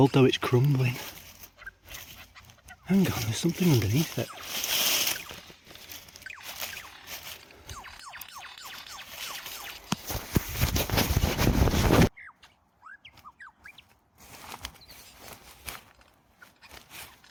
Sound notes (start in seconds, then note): 6.2 rustling; 12.6 birds